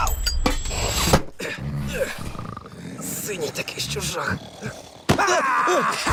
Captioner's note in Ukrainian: хропіння; маніакально сміється